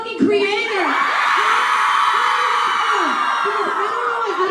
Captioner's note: fans screaming